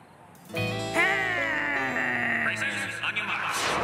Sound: growls

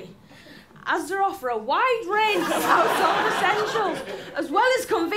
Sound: laughter

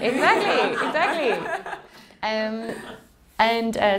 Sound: laughing

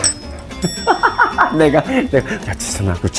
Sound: laughing at the belated regret

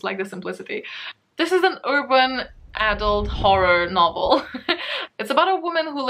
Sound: laughs

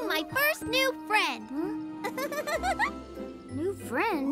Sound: laughs

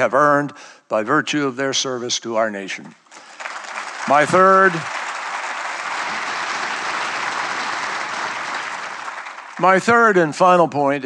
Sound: applause

